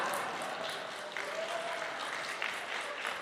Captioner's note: applause